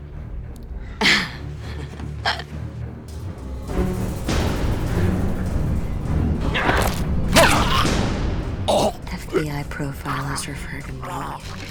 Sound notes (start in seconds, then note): 7.3 stabbing